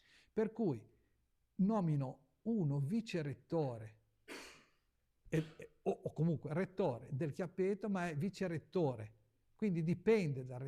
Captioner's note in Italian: sbuffare